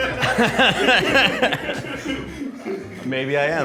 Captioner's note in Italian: laughing